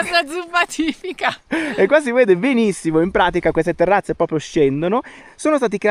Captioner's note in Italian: risate